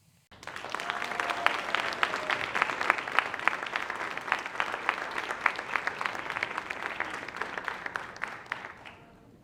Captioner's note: applause